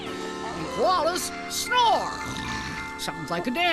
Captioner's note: snoring